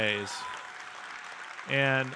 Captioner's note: audience cheering and applauding